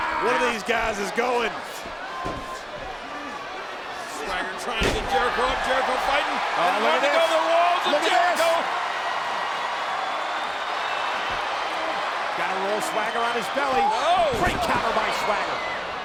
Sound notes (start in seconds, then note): 10.1 crowd cheering